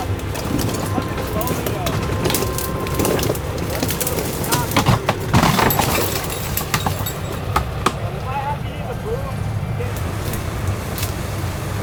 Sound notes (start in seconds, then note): 0.0 people chattering; 3.6 branches cracking; 3.6 leaves rustling; 8.4 people chattering